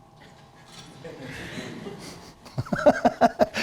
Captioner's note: laughter